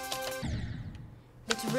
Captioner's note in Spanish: boom